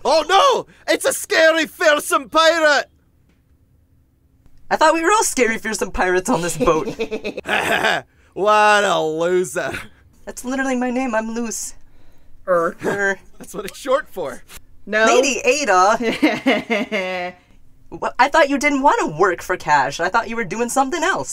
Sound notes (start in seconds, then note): 6.3 unknown giggling